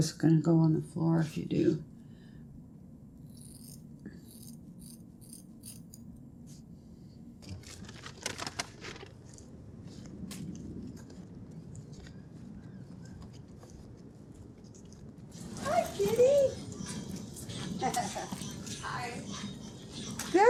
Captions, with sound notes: 'cause it's gonna go on the floor if you do. (sheers snipping) (door squeaking) Hi, kitty. - Hi.